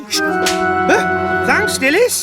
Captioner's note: smack!